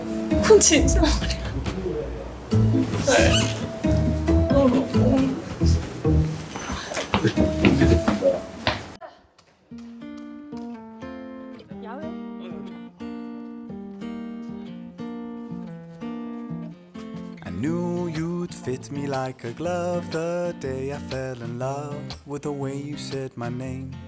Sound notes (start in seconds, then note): 4.6 indignant and grieved mumbling